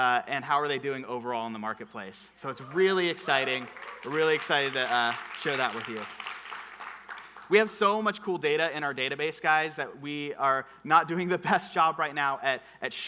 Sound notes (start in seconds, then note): 2.6 audience clapping